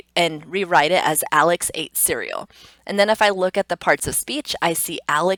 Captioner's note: instructor sniffs